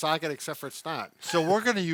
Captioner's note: laughs